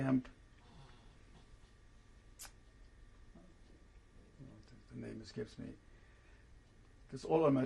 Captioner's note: pauses for 3 seconds